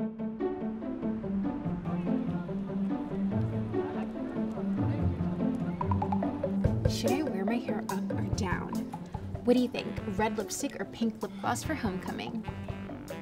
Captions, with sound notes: (playful music) (crowd chattering) - Should I wear my hair up or down? What do you think? Red lipstick or pink lip gloss for homecoming?